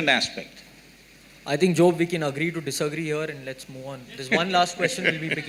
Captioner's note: Sadhguru Laughs